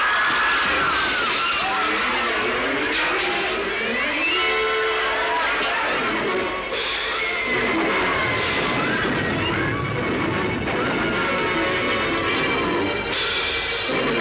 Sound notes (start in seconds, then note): 0.0 canons booming; 0.0 wind whistles; 0.3 people screaming; 2.0 dramatic orchestral music; 7.2 canons roaring; 8.0 people screaming